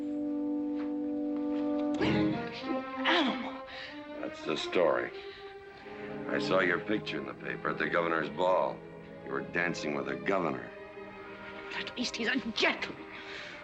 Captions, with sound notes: (gasping) - You animal. - That's the story. I saw your picture in the paper at the governor's ball. You were dancing with the governor. - At least he's a gentleman.